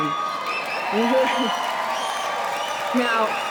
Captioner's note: applause